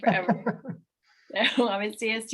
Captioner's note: laughing